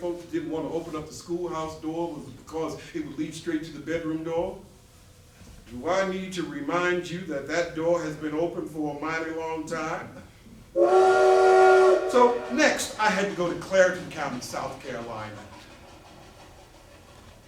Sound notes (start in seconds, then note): 10.7 train whistle